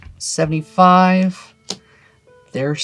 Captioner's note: card slaps